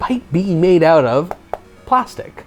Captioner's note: hollow knocking noise